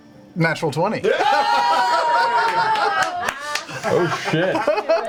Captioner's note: all cheer